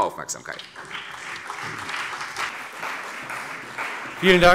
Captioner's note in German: Beifall CDU und BÜNDNIS 90/DIE GRÜNEN